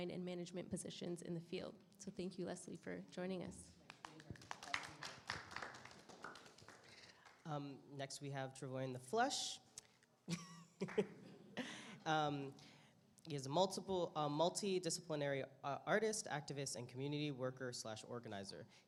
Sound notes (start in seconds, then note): 4.0 audience applause